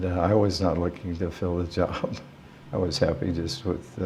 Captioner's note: chuckle